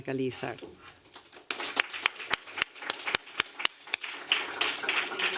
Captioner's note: applause